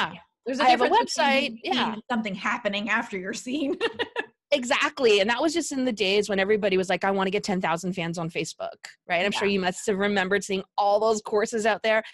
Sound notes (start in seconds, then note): 3.7 laughing